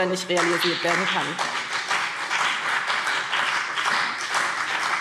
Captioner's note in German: Beifall BÜNDNIS 90/DIE GRÜNEN und vereinzelt CDU